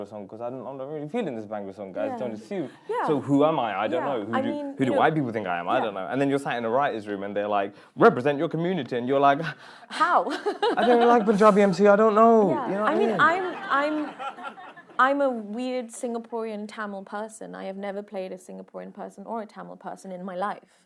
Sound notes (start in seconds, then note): 12.7 laughing